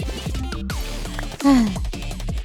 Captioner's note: sigh